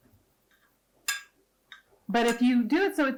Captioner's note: scrapping glass jar